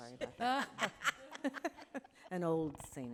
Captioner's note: audience laughing